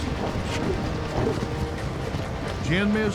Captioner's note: hoofbeats